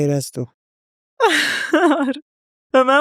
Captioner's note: laughs